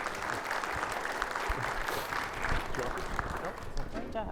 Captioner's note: audience applauding